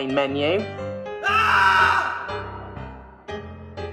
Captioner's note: scream